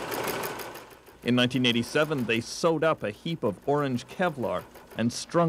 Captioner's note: machine whirring